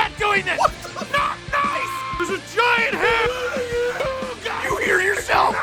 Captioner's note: screaming; Harry potter screaming